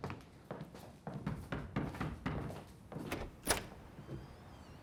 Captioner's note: knocking